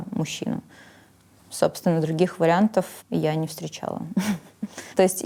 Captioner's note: chuckles